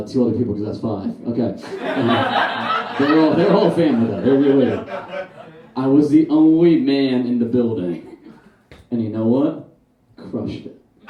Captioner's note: audience Laughs